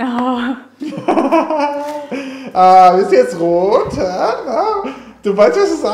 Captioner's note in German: lacht